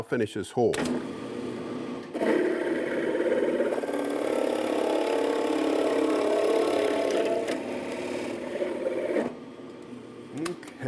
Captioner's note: drilling